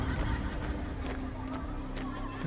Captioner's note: laughter